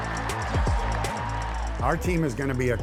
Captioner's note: crowd cheering